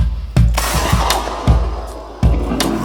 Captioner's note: gunshot